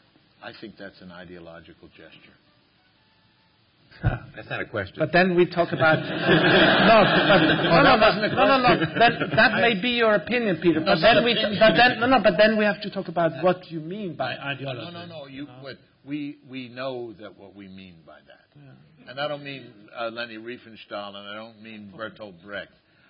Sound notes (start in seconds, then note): 5.8 laughter